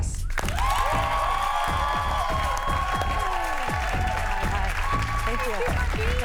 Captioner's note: cheers and applause